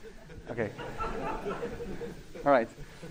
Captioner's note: laughing